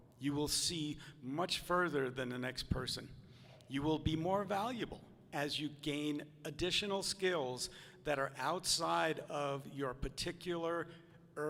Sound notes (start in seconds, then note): none